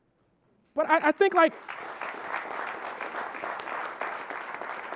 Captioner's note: audience clapping